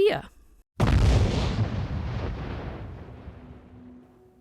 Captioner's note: explosion